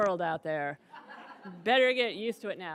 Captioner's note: audience laughs